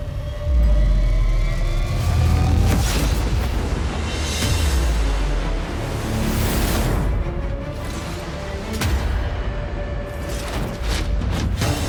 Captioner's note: metal scraping